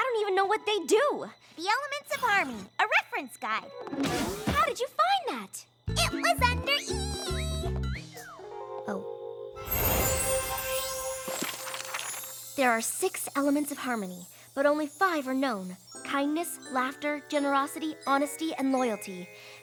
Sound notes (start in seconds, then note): 5.9 singsongy voice; 10.2 tinkling